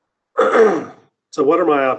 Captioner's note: clears throat